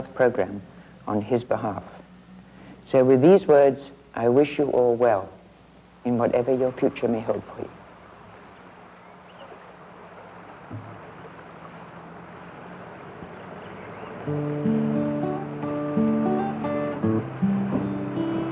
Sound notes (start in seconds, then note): 9.4 vehicle approaching; 11.2 water rushing; 13.9 gentle guitar music